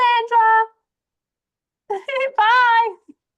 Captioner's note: giggles